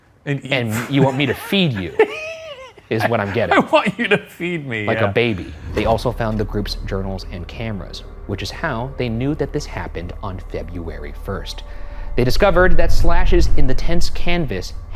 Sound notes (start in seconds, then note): 2.2 laughs